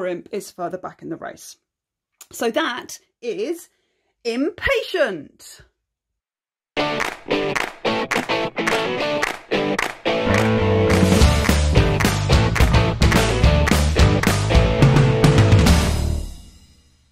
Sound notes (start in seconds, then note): 6.8 claps